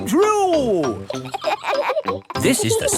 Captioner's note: kids laughing